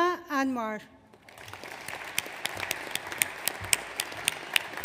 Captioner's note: audience applauds